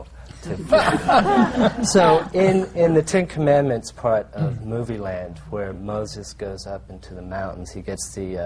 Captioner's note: laughter